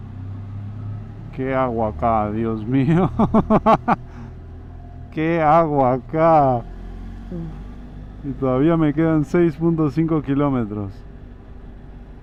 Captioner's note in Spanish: risas